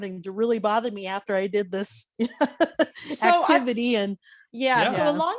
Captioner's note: laughing